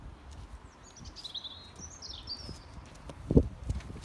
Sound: bird song

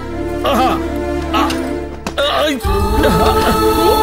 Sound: groans

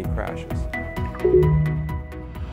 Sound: digital tone

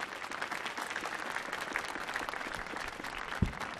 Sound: applause

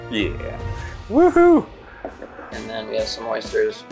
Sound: wooing

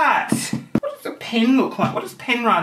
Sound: hollow knocking

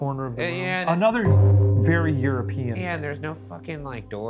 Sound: gong chimes

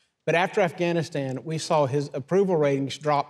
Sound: none

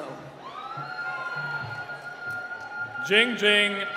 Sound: cheering

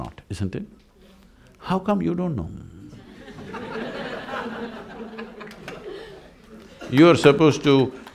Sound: laughter

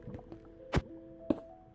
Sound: ambient tense music; punching; block breaks

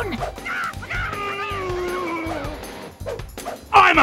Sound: strange grunting, air whips with each pose

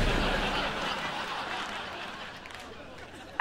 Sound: cracking

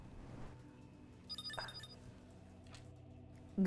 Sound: communicator chimes

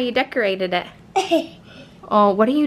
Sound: laughs

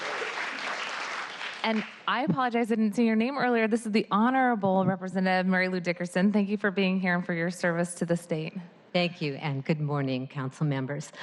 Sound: applause

